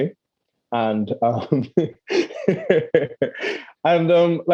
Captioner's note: laughing